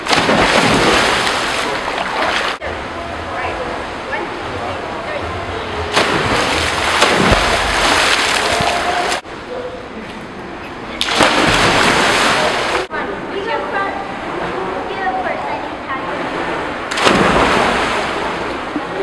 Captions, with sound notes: (Splash splash) Alright, 1, 2, 3 (Splash splash) (Double splash) You go first, you go first, I need to tie this (Splash)